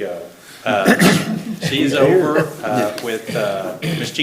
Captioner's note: everybody laughing